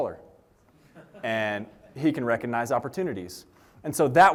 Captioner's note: laughter